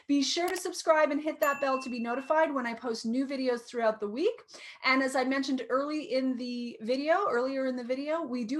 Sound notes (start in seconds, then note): 0.4 light clicking; 1.4 bell ringing